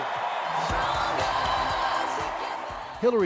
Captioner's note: cheers and Applause